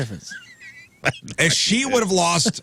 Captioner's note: laughing